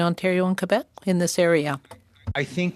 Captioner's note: speaking French